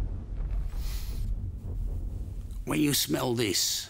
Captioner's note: sniffs